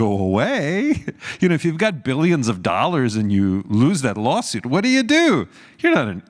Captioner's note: laugh